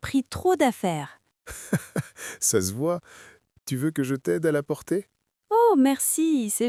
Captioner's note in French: rire